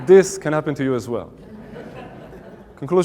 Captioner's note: audience Laughing